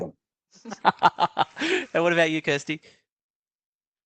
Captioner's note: laughs